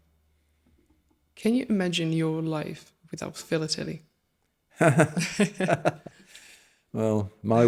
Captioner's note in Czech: Smích